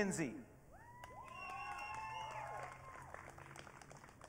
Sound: audience cheering

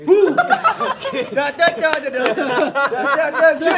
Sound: laughing

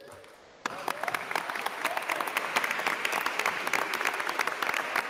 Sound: attendees applauding

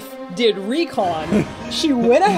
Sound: nervous laughter

